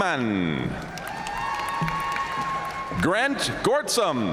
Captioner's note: audience cheering and applauding